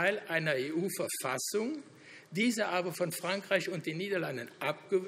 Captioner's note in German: none